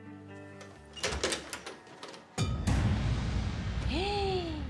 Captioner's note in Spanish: sonido al abrir la puerta